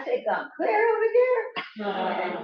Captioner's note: laughter